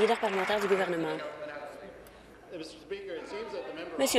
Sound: applause

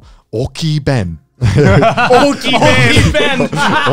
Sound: everyone laughs

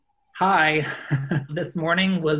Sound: exasperated laughing

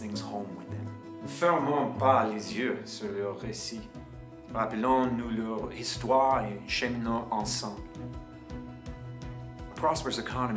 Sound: person speaking in French during this segment

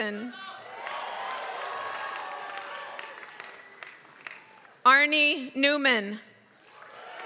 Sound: applause; applause

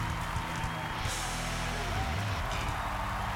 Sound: applause

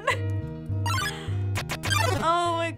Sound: chime

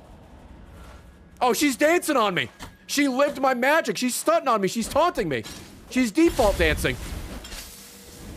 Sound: none

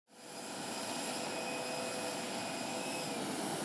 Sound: engine humming

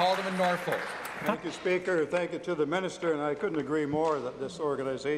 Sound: applause

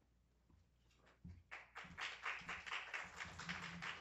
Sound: applause

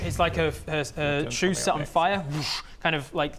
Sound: whoosh

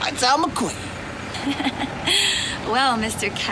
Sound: laughs

